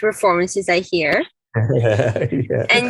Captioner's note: laughs